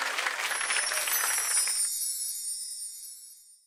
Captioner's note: tinkling sound